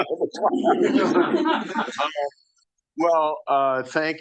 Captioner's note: audience laughing